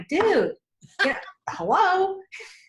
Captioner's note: laughs